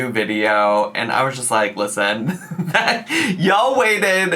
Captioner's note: laughs